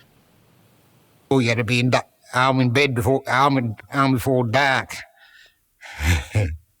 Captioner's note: laughs